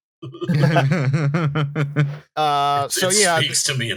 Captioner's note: chuckles; laughter; deep voice